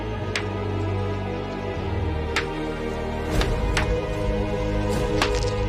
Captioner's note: dramatic music; pounding